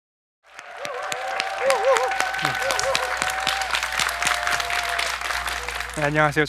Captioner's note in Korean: 박수